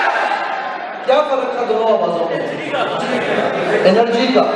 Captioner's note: crowd says in high tone